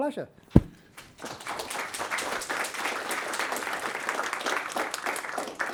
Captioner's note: audience applauding